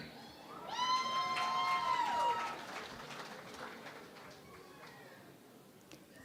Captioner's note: cheering and Applause